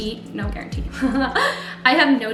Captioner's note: laughs